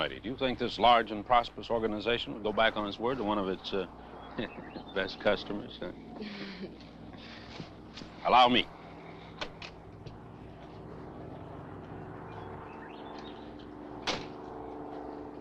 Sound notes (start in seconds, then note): 6.2 Nell chuckles; 6.2 chuckling; 10.7 plane engine rumbling